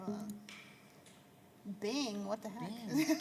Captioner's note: laughter